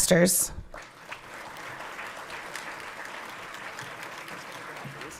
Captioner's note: everyone clapping